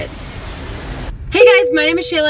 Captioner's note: airplane engine roar